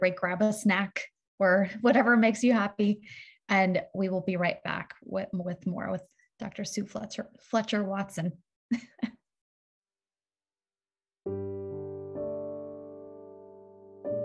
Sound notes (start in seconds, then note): 8.8 chuckles; 11.2 soft piano music